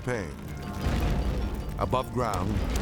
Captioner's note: flames whooshing